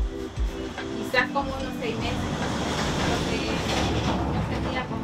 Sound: speaking Spanish; trucks rumbling

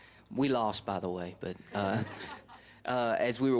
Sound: laughter

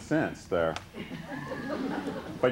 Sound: laughter

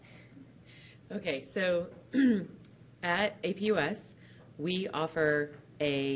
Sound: clears throat

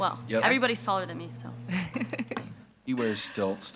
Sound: laughs

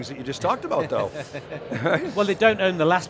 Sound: all laugh

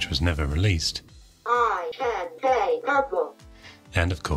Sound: computer talking

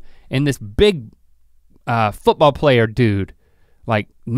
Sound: none

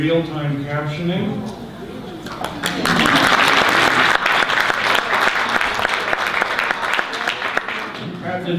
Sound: audience applause

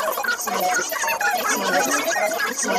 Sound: siren blares in distance

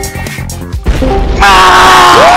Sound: explosion

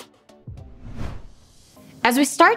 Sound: air whooshing

